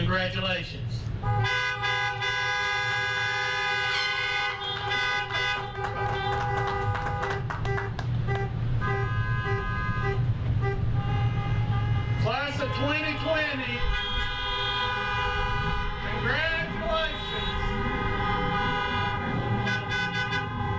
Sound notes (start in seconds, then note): 1.4 horns honking; 4.1 air horn blows; 6.5 clapping; 13.9 horns honking; 17.8 horns honking